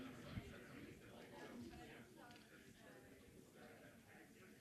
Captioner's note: group chattering